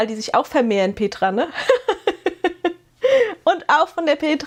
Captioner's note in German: gelächter